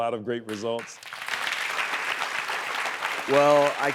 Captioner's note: audience applauding